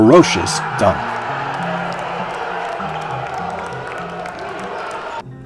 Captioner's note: crowd cheering